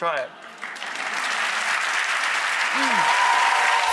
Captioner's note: applauds